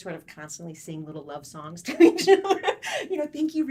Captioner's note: laughs